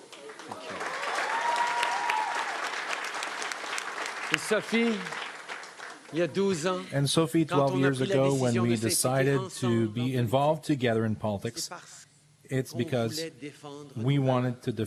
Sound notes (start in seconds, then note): 4.0 cheering and Applause